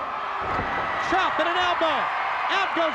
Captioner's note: audience cheers